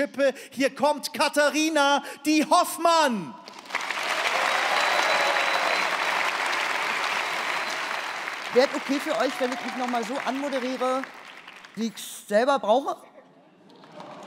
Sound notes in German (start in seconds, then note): 3.5 Jubel, Applaus